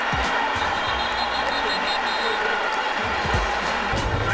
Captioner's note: whistles